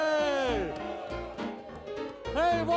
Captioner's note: audience cheering; light upbeat music